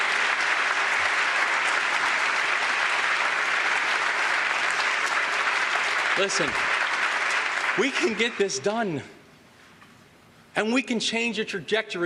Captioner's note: applause